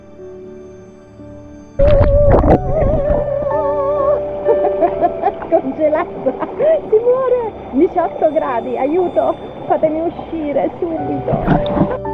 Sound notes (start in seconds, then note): 1.6 screams, laughter